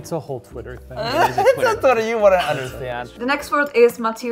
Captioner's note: laughs